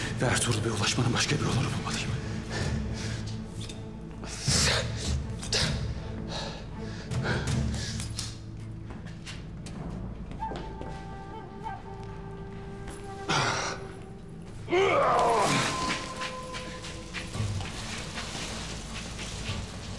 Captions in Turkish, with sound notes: …ve Ertuğrul Bey’e ulaşmanın başka bir yolunu bulmalıyım. (Nefes sesi) (Müzik - Gerilim) (Ikınma sesi)